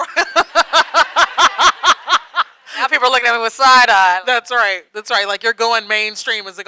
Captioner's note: laughs